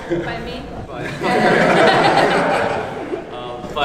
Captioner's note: laughs